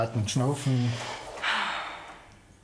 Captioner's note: she exhales deeply